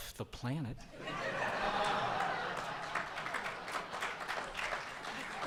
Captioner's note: audience applauds